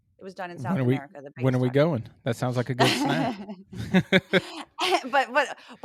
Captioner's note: laugh